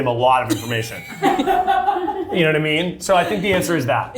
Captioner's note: cast member laughing